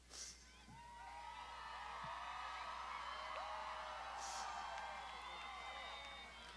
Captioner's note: graduands shouting